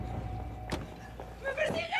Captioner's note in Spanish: ruido de las puertas